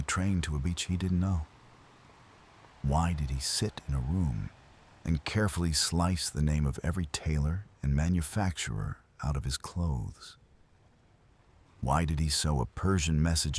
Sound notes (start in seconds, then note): 10.5 wind Blowing